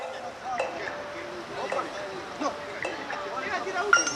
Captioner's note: chatter